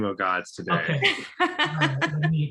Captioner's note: laughs